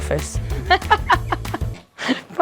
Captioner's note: Chwerthin